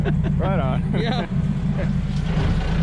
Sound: chuckling

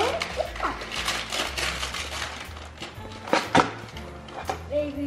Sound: paper rustling

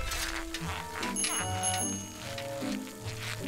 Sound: bicycle bell rings

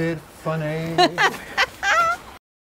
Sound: laughs

